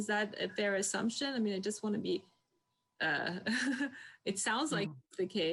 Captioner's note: laughs